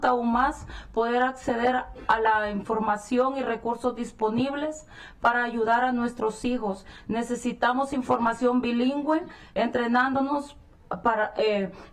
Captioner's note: speaking spanish